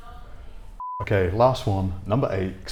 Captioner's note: SMPTE bars beep